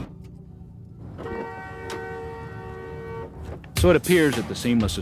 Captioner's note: door clicking